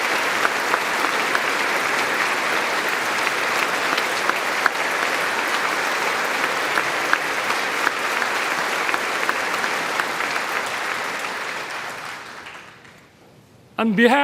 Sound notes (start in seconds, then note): 3.2 applause